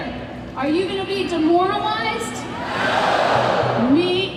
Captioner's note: yelling